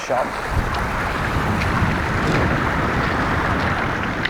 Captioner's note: water running